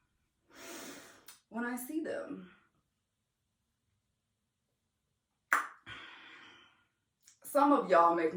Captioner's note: smacks tongue